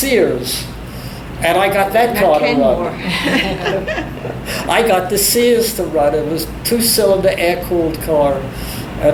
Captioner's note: both laugh